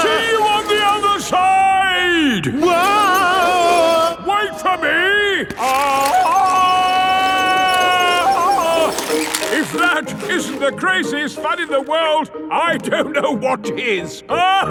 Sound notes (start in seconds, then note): 3.3 yelling; 6.7 yelling